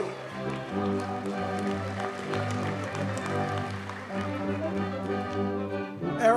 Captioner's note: audience cheers and applauds